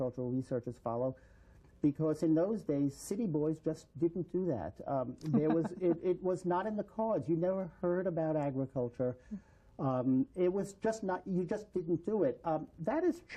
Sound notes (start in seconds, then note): 5.2 laughter